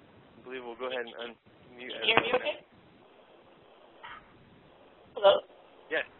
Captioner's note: static on the line